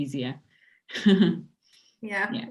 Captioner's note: laughs